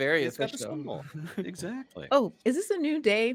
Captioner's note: laughs